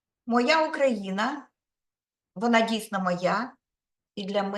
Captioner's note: speaking Ukrainian